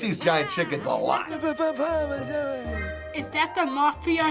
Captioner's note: pigeons speaking foreign language